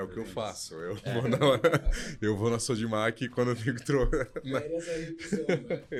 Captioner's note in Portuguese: risos